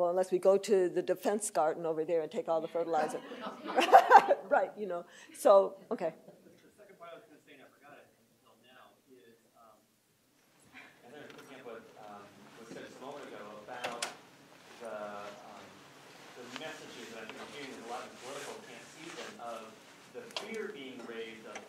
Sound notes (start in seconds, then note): 3.0 laughter